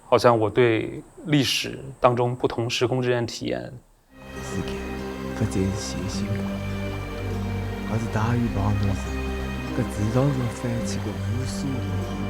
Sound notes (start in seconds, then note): 4.7 northeastern dialect